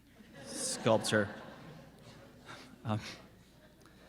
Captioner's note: laughing